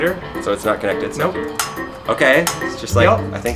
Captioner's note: clicking